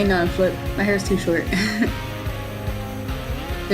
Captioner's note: breathy laugh